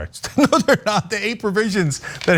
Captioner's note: laugh